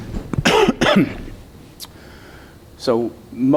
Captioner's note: coughing